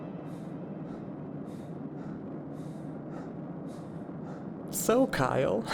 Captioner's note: Kyle breathing